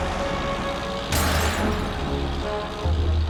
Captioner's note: glass shatters